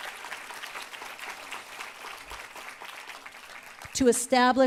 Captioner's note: applause